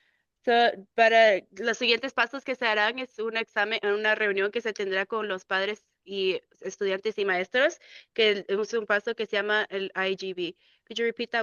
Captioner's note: speaking in Spanish